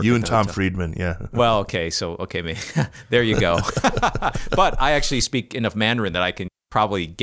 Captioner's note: laughter